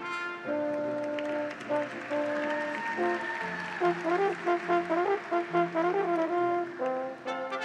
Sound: audience applauds; graduates cheer

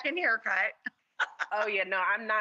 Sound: laughing

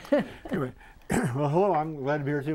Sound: laughing

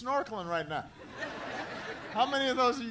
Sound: laughter

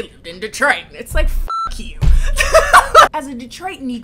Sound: laughs

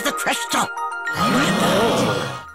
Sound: all gasp

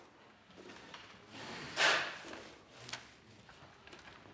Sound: noise from work in the background

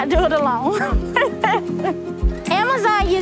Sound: laughs

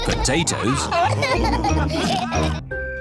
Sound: laughter

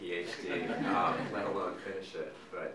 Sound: audience laughing

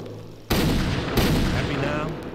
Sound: gunshots

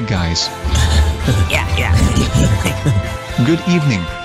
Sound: both laughing

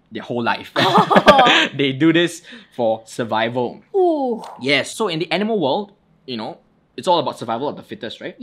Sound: both laugh

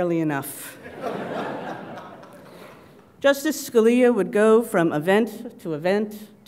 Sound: laugh

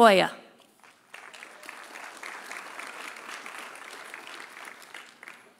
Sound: audience applauding

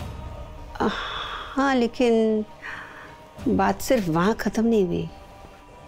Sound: Chief's mother sighs

